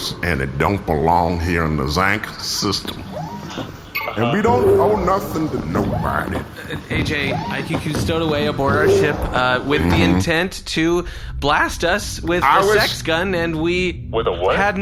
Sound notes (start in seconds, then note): 9.7 goes ‘mhm’